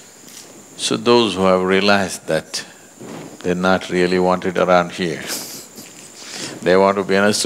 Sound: laughs

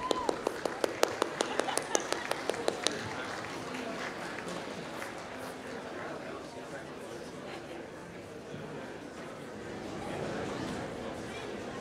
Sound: applause

